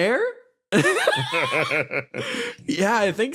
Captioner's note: laughs